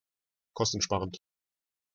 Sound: fast Pronunciation

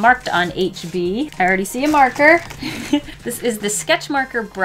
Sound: light chuckle

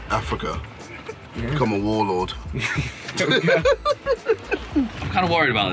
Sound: chuckles

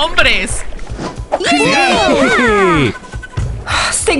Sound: cheering

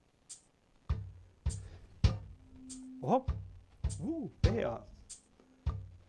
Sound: feedback sound

